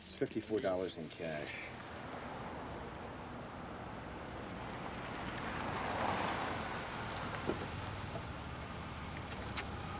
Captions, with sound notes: There's $54 in cash. (car engine whirring)